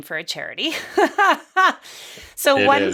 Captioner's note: laughs